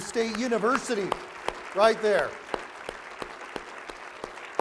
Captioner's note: applause